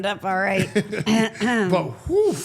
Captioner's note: Paul laughing; clears throat